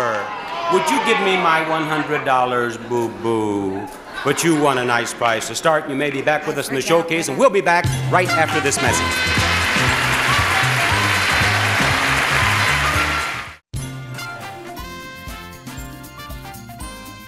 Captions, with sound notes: - Would you give me my $100, Boo-Boo? But you won a nice prize to start. You may be back with us in the showcase - I forget... - And we'll be back right after this message. (upbeat music) (audience clapping)